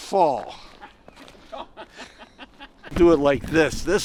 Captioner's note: laughing